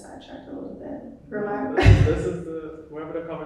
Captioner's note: chuckling